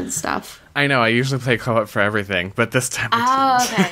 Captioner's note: laughs